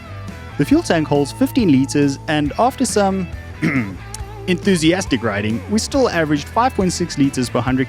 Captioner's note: ahem